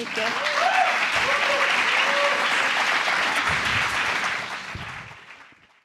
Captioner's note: applause